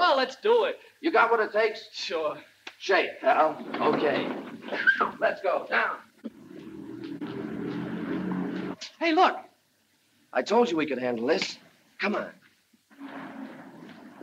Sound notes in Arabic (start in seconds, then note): 2.2 يضحك; 4.8 صفارة; 13.2 يضحك